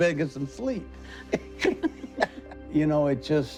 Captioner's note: laughing